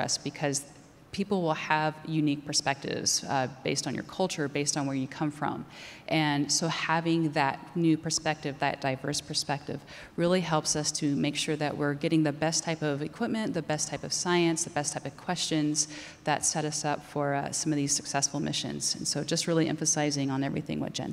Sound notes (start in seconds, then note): none